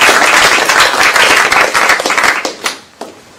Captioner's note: applause